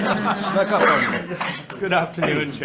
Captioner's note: members laughing